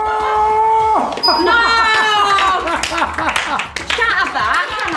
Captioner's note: laughing